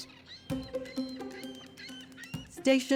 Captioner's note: bird calling